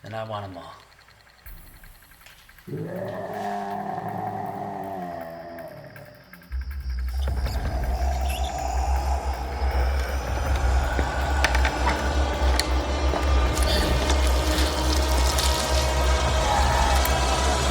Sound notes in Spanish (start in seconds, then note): 3.3 Rogers gruñendo; 11.1 música de suspenso